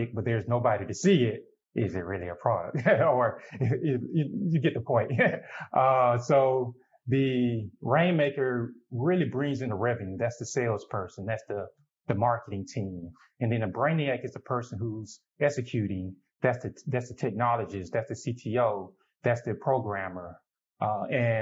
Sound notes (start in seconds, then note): 2.6 chuckles